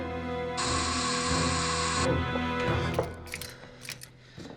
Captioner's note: phone buzzes